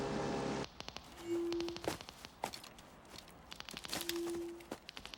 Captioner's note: detectors clicking